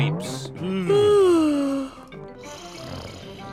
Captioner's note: both yawn; both snore